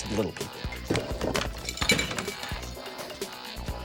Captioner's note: clinking and clattering